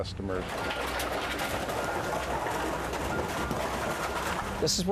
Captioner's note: equipment beeping